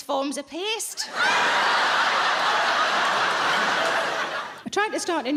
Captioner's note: audience laughing